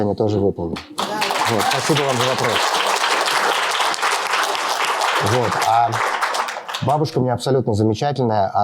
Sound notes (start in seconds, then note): 0.9 applause; 5.5 speaking russian